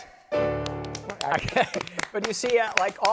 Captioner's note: laughs